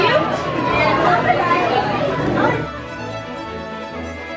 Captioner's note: overlapping crowd conversation; lighthearted orchestra music